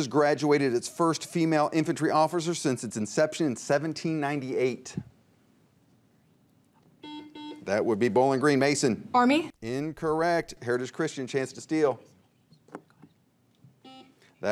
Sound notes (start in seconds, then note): 7.0 buzzer beeps; 12.1 teammates whisper; 13.8 buzzer beeps